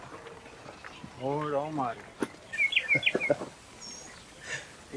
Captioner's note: whistles